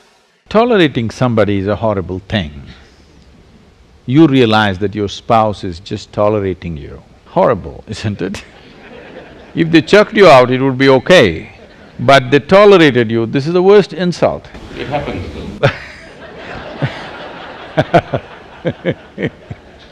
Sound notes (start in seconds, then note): 8.4 laughter; 18.6 laughter